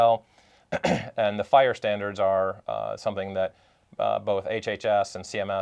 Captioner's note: cough